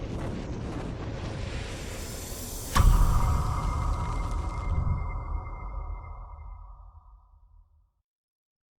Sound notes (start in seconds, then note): 0.1 whooshing